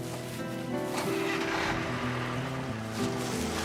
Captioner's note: bus engine starts